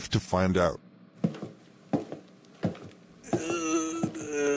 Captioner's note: footsteps; more zombie moaning